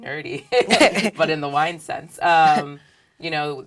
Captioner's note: laugh